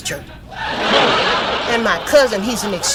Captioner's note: audience laughs